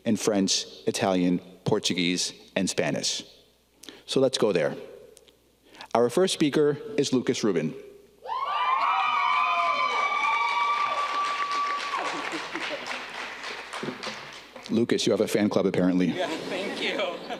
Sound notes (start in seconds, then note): 8.3 audience cheering; 12.2 audience clapping